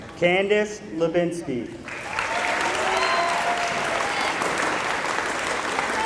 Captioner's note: applause